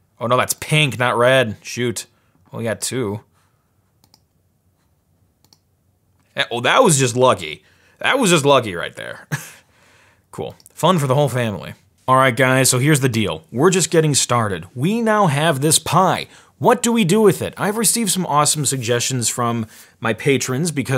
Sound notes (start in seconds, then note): 9.8 laughs